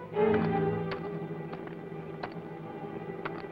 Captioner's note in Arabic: طقطقة الفأس